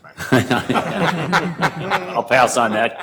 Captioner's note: laughing